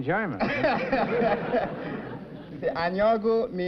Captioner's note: chuckling